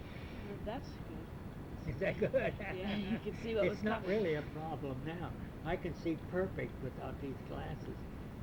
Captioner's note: laughs